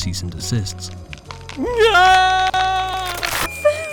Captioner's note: screams